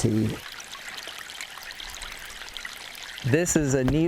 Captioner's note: water trickling